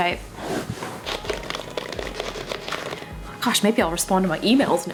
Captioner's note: typing